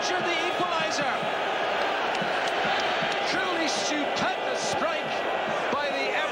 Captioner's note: Continúan los aplausos